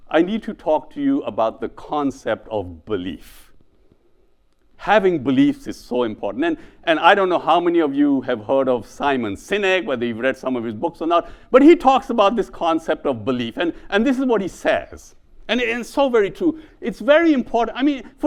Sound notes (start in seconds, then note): none